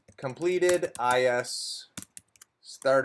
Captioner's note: keyboard clattering